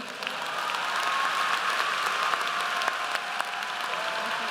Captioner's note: audience applauds